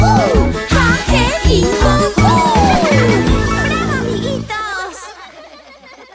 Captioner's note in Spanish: Risas